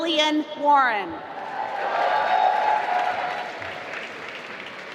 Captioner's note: applause